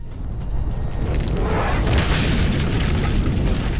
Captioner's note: yells